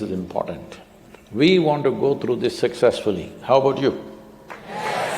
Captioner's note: applause; crowd cheering affirmatively